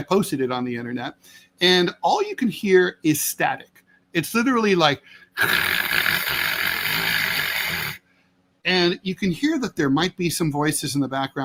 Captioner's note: static noise